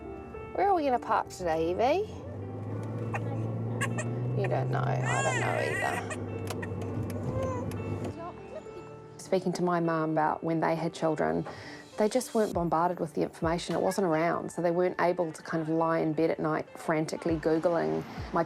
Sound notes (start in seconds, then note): 5.0 baby cries